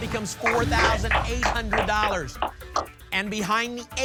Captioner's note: applause